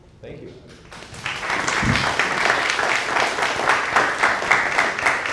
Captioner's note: audience applauding